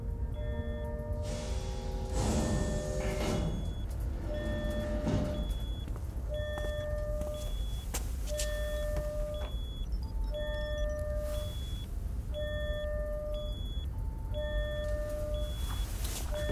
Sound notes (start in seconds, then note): 6.1 alarm; 6.4 footsteps